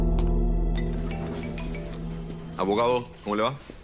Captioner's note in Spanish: Teléfono al sonar